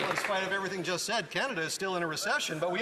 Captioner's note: some Applause